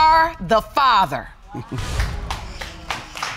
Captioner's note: chuckles; audience applauding